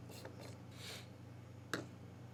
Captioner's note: sniff